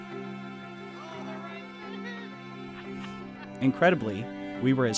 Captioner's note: slow dramatic music; people murmuring